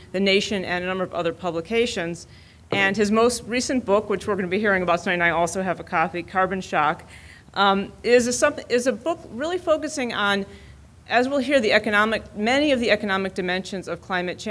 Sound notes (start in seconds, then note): none